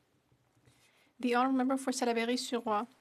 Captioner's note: speaking in french